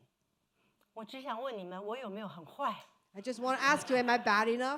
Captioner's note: speaking Mandarin